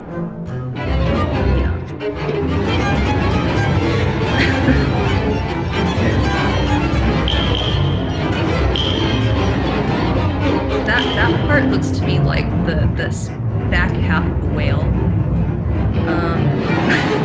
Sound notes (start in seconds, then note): 0.1 music; 3.9 giggles; 5.3 music; 15.0 music; 16.1 giggles